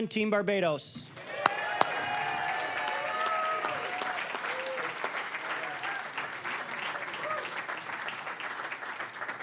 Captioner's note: cheering, applause; applause